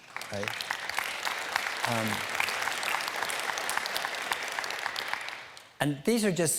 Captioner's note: applause